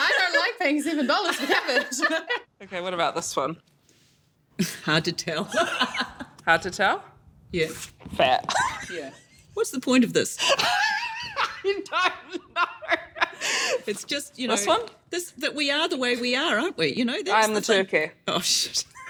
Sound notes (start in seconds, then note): 1.8 laughs; 5.7 laughs; 11.1 laughs